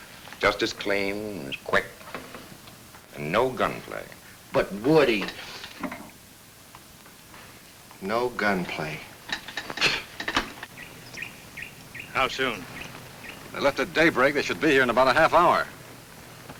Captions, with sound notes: Just as clean and quick, and no gunplay. - But, Woody. No gunplay. (bird tweets) - How soon? - They left at daybreak. They should be here in a bout a half hour.